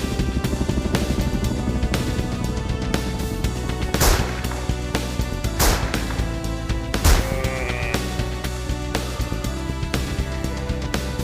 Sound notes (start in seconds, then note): 0.0 theme music fades out; 3.8 gunshots; 7.1 sheep bleet